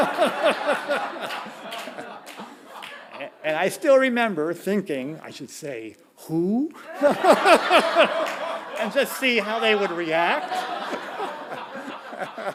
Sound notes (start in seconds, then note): 0.0 audience laughing; 6.8 laughing